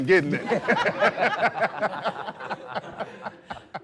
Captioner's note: laughter